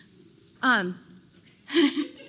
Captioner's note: laughter